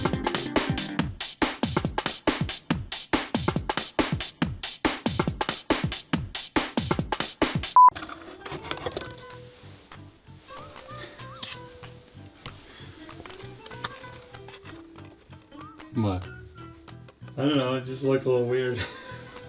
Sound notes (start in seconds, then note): 7.7 beep; 7.9 cups rattling; 10.9 laughs softly